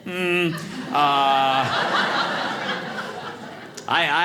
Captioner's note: audience laughing